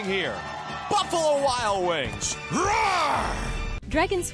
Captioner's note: roars